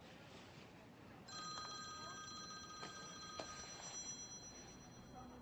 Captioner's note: phone ringing